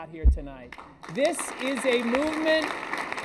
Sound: applause

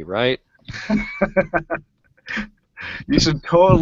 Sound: laughs

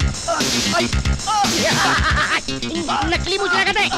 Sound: laughing

